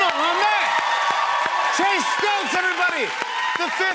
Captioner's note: cheers and applause